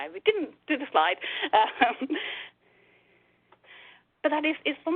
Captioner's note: laughs